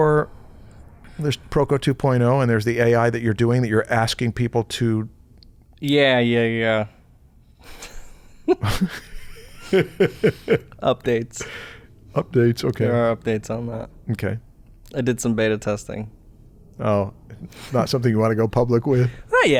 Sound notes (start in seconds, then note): 7.7 chuckles